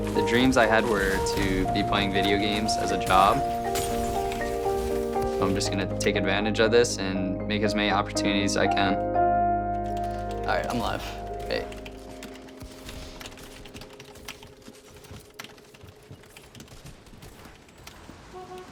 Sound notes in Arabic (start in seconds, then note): 10.4 على سماعة الرأس; 13.2 ضغط على لوحة المفاتيح